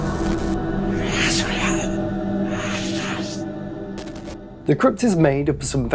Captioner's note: whispering